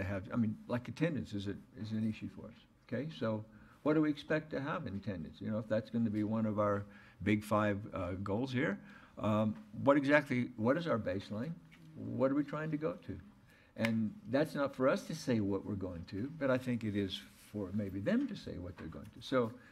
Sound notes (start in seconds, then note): none